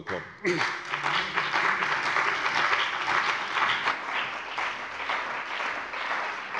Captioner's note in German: Beifall bei der CDU und dem BÜNDNIS 90/DIE GRÜNEN